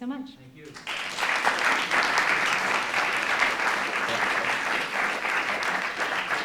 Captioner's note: applause